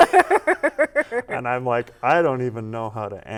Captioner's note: laughter